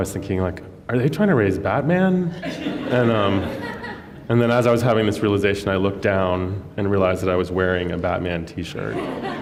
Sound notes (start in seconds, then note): 2.4 laughter